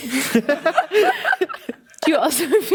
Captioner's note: audience laughing